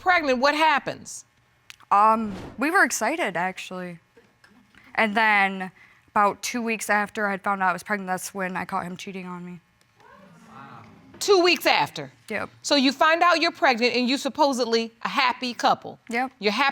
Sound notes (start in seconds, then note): 10.0 audience exclaims